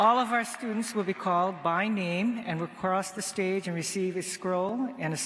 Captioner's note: cheers and applause